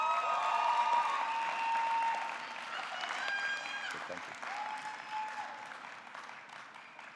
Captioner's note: audience cheering; audience clapping